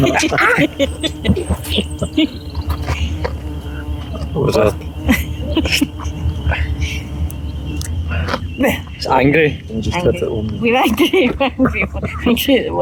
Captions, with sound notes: [Laughter] [buzzing wasp] It's angry. We're angry. Angry at the wasp